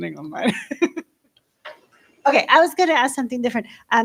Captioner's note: laughs